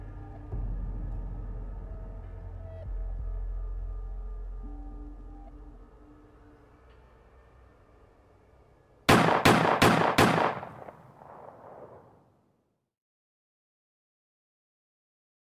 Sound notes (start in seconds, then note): 0.1 intense music; 9.1 gunshots ring out